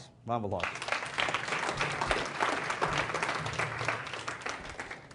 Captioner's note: applause